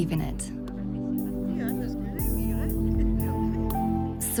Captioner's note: indistinct conversations